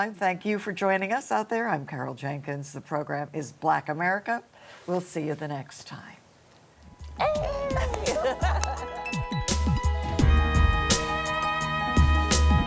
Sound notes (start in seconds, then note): 7.5 laughter; 11.1 mid-tempo music